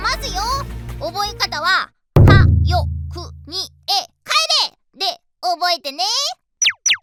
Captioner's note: in Japanese wordplay